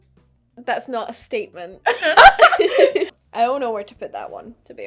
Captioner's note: laughing